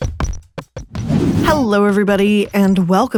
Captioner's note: air whooshes